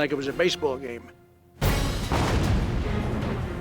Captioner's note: explosion